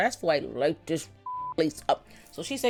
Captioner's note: beep